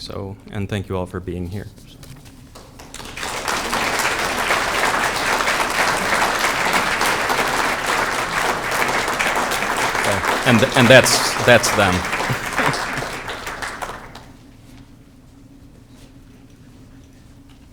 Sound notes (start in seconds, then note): 3.5 audience clapping